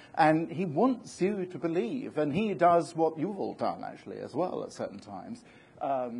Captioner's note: none